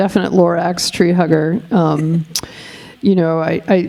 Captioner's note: chuckling